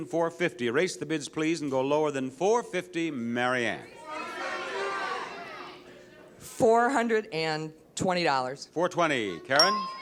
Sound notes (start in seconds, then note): 3.9 audience shouts incoherently; 9.6 counter beeps